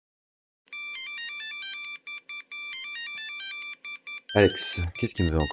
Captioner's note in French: Sonnerie